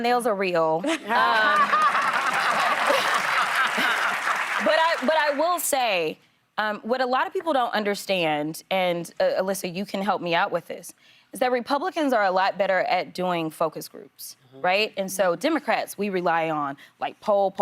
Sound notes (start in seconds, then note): 6.3 applause